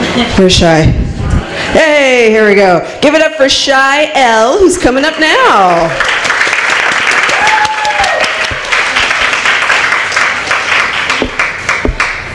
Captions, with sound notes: Where's Shy. Yay! Here we go. Give it up for Shy L. who's coming up now. [applause]